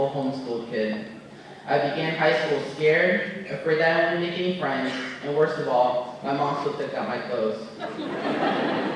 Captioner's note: laughter